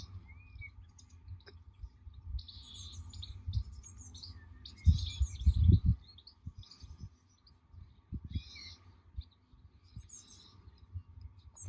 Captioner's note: birds singing